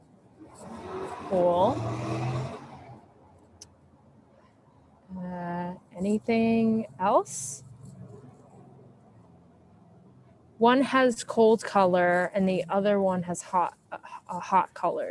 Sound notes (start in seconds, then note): 0.4 motorcycle engine roaring